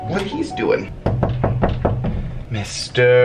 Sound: knock on door

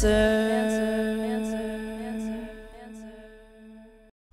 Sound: echoing

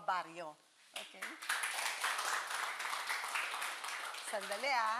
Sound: applauding

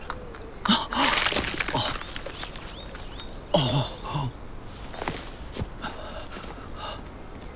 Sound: gate rattles; jaws crunching; man gasps

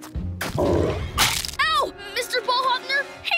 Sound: chomping

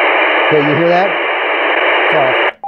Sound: loud static

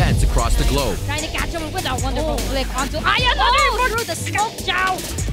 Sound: foreign language

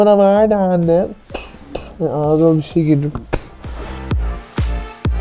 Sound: muffled spit; spits

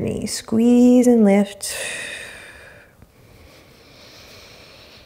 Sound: exhaling strongly; inhaling deeply

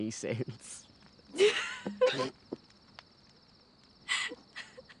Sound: laughter

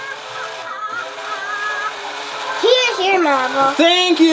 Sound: animated music; caterpillar laughs

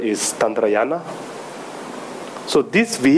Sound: speaking in foreign language

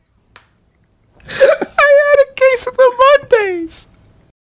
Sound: laughing, choked up

